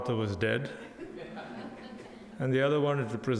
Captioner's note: audience laughs